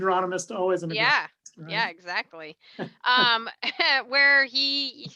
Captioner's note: laughs